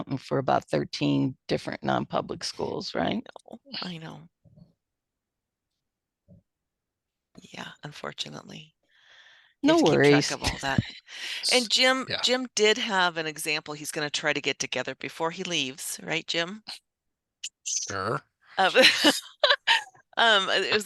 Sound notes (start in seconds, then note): 9.8 laughs; 18.7 participants laugh